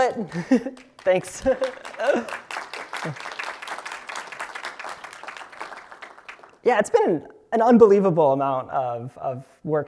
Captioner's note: applause